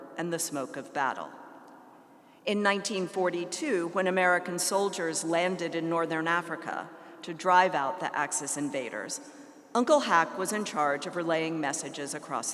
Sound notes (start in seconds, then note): none